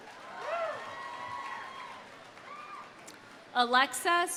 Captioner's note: audience applauding; audience cheering